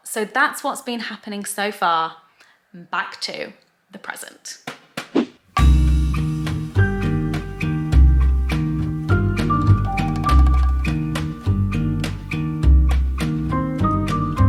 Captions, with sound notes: so that's what's been happening so far. Back to the present. (sensual music) (transition swishes)